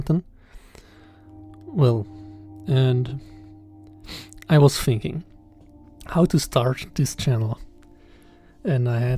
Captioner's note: sniff